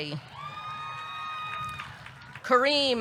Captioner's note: audience cheering; audience clapping